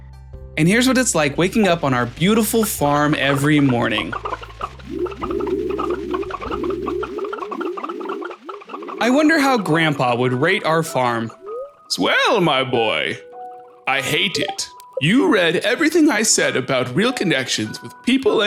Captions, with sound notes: And here's what it's like waking up on our beautiful farm every morning. (Crazy Chicken Noises.) I wonder how grandpa would rate our farm? Swell, my boy. I hate it. You read everything I said about real connections with people